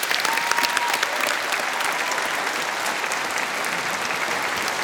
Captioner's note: audience applause